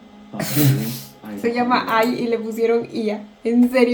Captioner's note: in Spanish